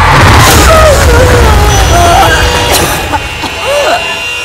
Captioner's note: Coughing